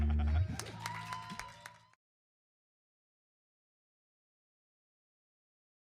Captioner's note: laughs; audience applauding and cheering